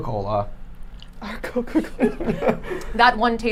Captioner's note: laughing